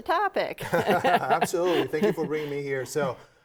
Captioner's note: both chuckling